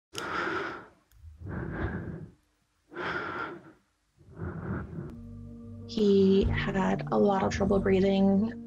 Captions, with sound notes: (heavy breathing) - He had had a lot of trouble breathing